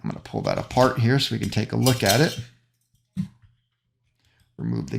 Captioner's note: gasket clanking